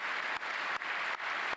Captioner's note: applause